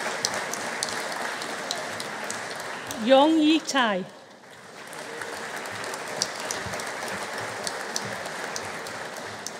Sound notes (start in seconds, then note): 4.6 audience applauding